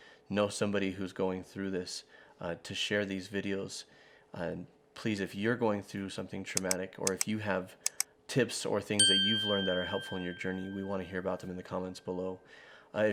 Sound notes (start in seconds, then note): 7.0 computer mouse clicks; 9.0 bell dings